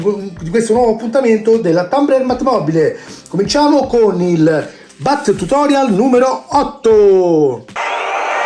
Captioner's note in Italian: Applauso